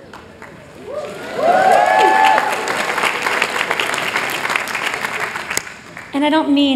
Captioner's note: applause